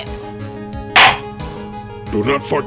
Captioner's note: gavel slams!